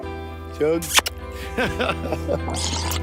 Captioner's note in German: schmatze